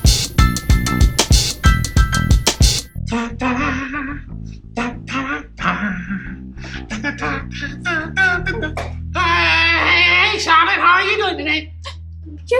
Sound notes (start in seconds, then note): 3.3 Monkey Mikey vocalizes